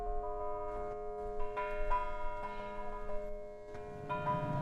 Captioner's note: ringing bells